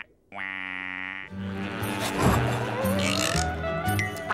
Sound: buzzing

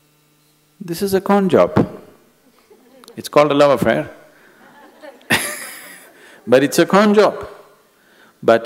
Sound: laughter

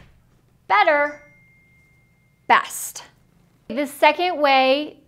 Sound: bell dinging

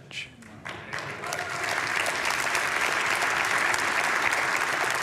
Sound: congregation applauding

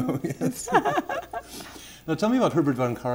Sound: laughter

